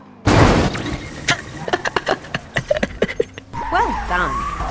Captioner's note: laughs to myself